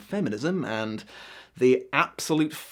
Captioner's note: deep inhale